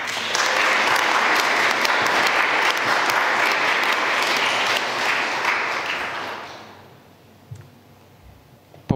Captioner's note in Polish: oklaski